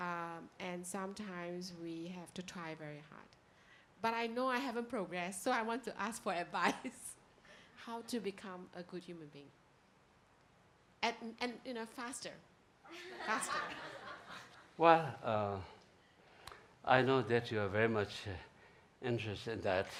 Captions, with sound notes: And sometimes we have to try very hard. But I know haven't progressed so I want to ask for advice. How to become a good human being, and you know faster, faster. (laughing) - Well I know that you are very much interested in that.